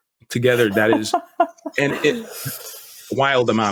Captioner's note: laughs